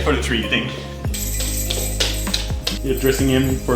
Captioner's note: bells jingling